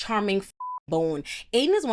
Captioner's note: beep